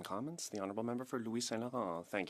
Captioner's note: speaking French